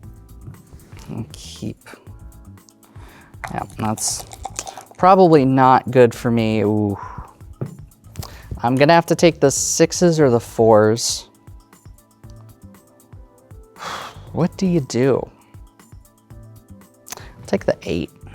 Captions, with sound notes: We'll keep... That's probably not good for me. (dice rattling, then rolling) Ooh. I'm gonna have to take the 6's or the 4's. (exhales) What do you do? Take the 8.